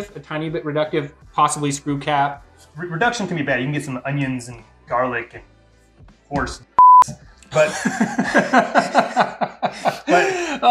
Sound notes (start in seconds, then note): 6.7 beeping sound; 7.5 laughing